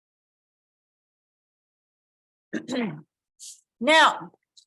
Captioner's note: clears throat